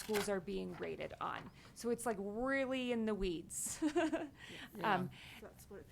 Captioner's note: chuckles